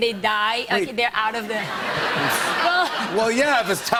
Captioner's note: laughter